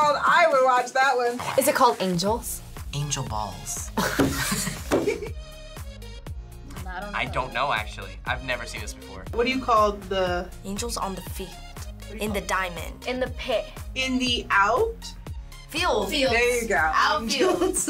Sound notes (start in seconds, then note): 3.9 both laugh